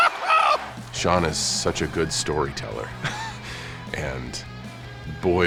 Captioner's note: laugh